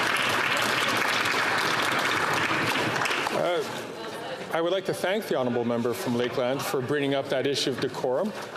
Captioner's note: applause